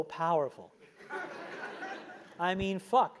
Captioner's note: laugh